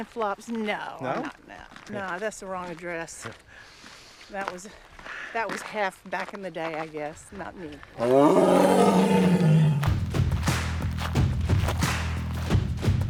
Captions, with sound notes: - Flip-flops? No, not in that. - No? - No, I guess a long dress. That was half back in the day, I guess. Not me. (tiger roars) (intense music)